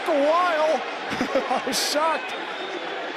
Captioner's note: laughs